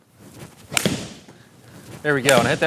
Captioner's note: club whacking ball